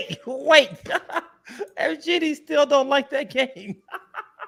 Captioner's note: laughs